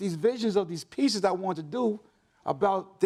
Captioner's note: none